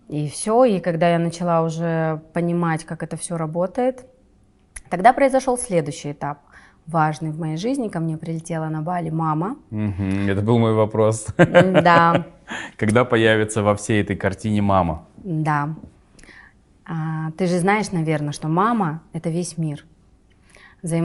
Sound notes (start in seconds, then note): 11.2 laughs